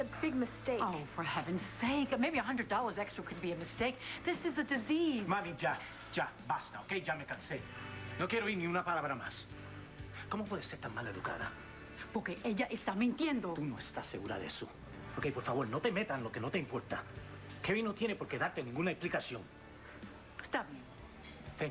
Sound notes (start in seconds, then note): 8.1 speaking in spanish